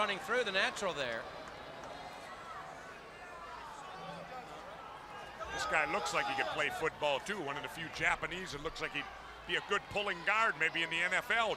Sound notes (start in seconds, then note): 3.9 crowd chatter